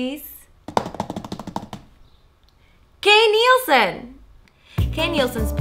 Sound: makes drum roll with her hands on the desk

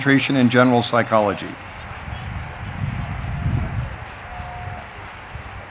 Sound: audience applauding

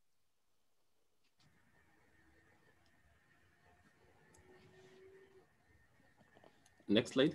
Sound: silence

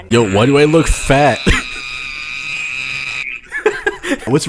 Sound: screaming

